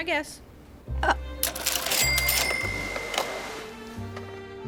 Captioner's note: cashier drawer rings